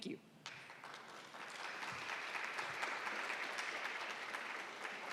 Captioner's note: attendees applauding